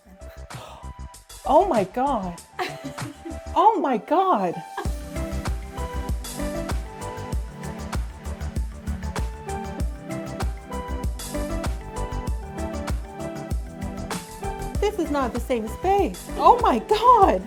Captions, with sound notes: - (gasps) Oh my God. Oh my God. (upbeat music) This is not the same space. Oh my God.